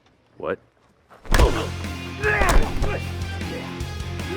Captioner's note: loud punches